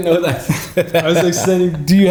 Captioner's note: laughter